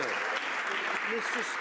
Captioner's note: some Applause